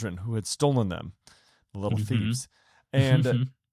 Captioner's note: chuckles